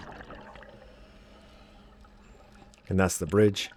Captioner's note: water Sounds